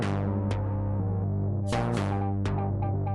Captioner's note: none